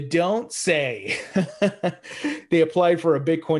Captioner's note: laughs